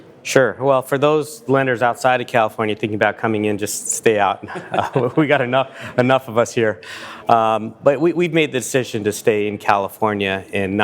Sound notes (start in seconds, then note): 4.4 both laughs